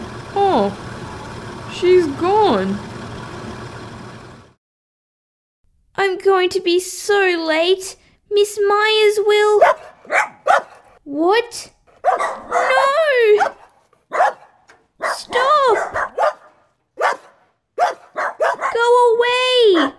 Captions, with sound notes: Oh, she's gone... I'm going to be so late Miss Myers will... (Barking) What?! (Barking) No...! (Barking) Stop! (Barking) Go away!